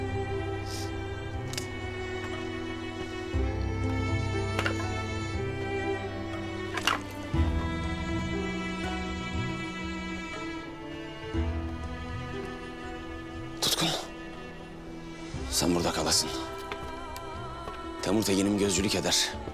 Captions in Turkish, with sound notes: [Çalı Kırılma Sesi] [Yere Odun Düşme Sesi] Tutkun. Sen burada kalasın. Temur Tegin'im gözcülük eder.